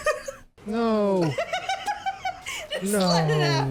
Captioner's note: laughs